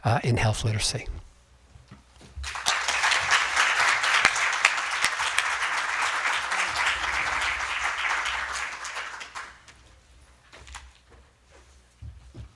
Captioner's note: applause